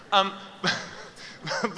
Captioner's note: laughter